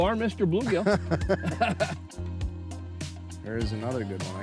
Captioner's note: both laughing